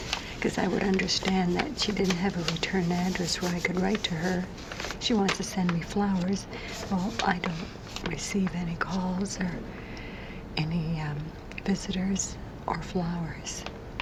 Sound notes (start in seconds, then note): none